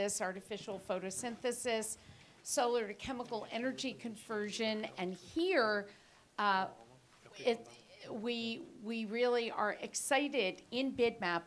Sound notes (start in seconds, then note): none